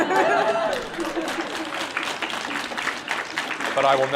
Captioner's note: audience laughs; audience applauds